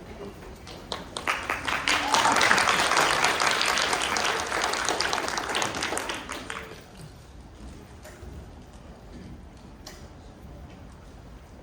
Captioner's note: applause